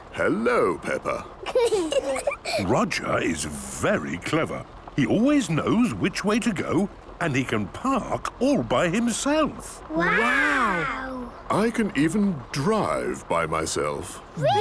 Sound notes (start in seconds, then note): 1.4 children giggling